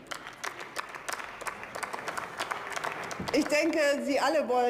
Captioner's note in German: Beifall